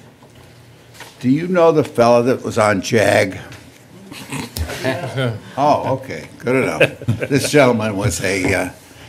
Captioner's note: laughter